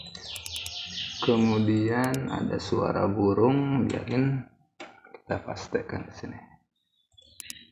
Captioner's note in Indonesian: ada suara burung